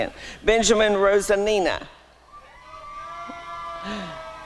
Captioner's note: applause and cheering